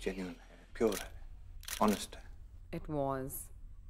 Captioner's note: Camera shutter clicks